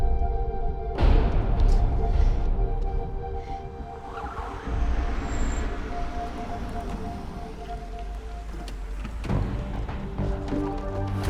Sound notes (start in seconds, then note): 3.8 car approaching